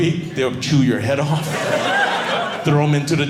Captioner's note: audience laughing